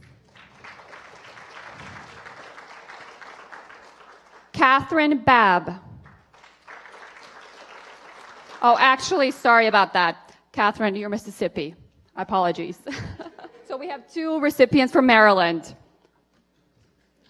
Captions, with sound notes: [APPLAUSE] MYLA MESSINGALE. [APPLAUSE] EVAN MILLER. MADELYN PEERSY.